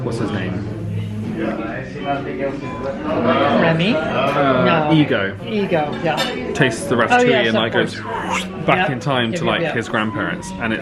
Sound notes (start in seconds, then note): 7.9 mimics whoosh